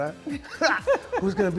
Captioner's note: laughing